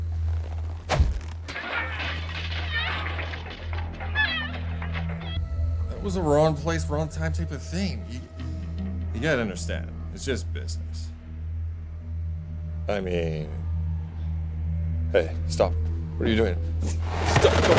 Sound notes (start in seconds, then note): 0.0 leather creaks; 1.9 screaming and clattering from phone